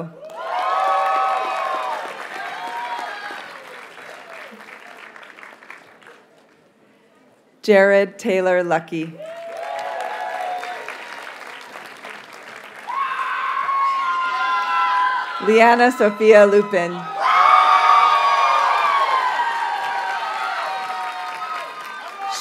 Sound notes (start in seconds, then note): 0.1 audience cheers and applauds; 8.9 audience cheers and applauds; 10.5 graduates shout and cheer; 17.0 audience cheers and applauds